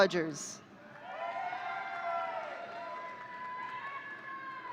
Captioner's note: audience cheering